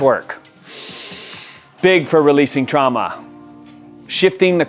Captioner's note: inhales sharply